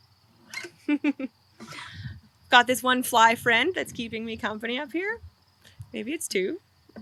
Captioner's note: laughs